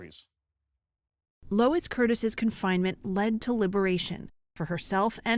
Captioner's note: voice-over